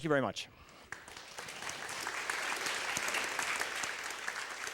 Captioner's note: applause